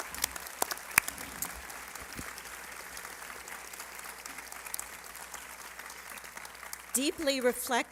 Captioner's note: applause